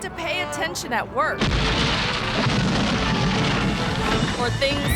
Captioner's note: concrete rumbling